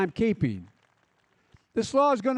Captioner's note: applause